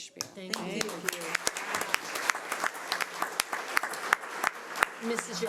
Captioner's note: audience applauds; overlapping chattering